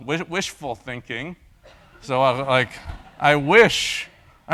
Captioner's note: laugh